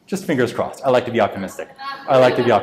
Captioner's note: audience laughs